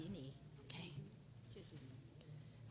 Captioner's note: speaking foreign language